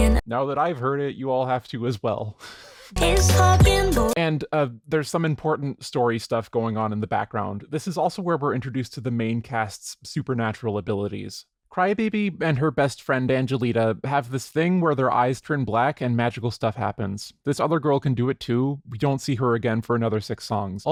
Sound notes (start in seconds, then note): 2.4 wheeze